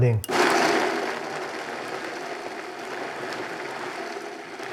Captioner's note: blender whirring